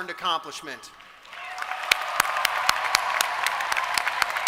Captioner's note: applause